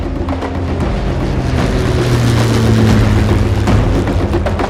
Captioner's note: airplane engine roars